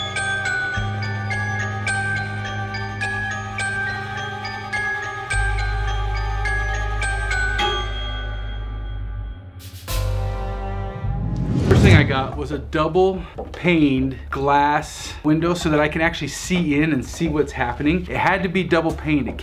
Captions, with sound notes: (air whooshes) First thing I got was a double paned glass window so that I can actually see in, and see what's happening. It had to be double paned.